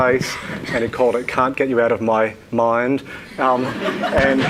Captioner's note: audience laughing